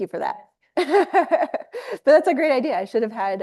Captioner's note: laughs